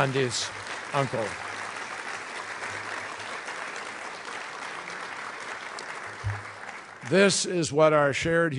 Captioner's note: applause